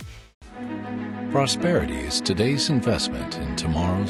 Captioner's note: voiceover